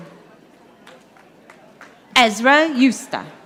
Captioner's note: audience applauding